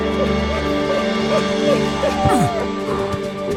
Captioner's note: rousing music; crying; boy grunts; cries